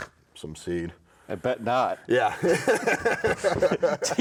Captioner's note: both laughing